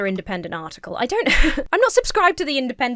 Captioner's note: laughs